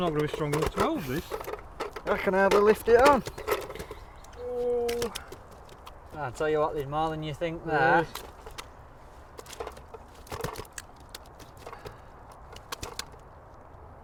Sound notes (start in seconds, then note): 9.2 fish flopping around